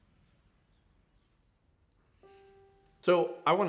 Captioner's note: birds chirping